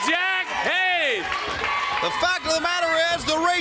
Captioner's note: crowd chatter